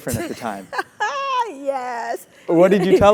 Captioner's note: laugh